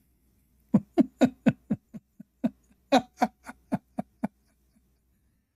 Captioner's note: Ketawa